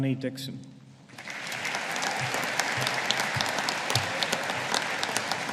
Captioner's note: audience applauding